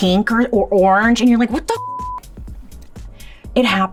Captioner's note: beeps